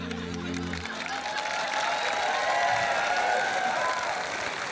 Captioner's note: applause